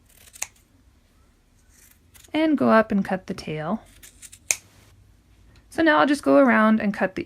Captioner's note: scissors snipping